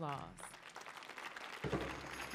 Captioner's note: audience applauding; tambourine music; upbeat rhythmic drumming